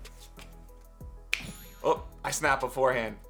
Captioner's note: snaps fingers